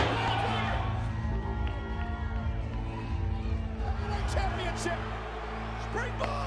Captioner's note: cheering